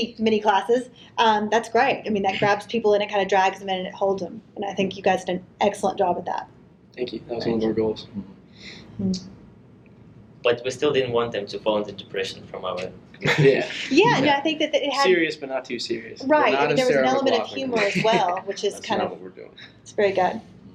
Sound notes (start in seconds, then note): 13.2 chuckles